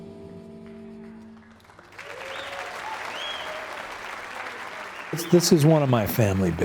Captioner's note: audience applauding